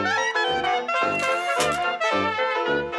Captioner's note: sfx: typewriter carriage return